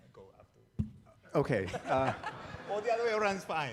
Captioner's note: audience laughing